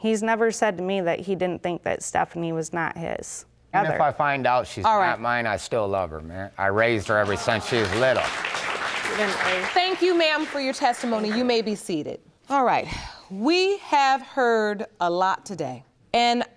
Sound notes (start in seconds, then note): 8.7 audience applauding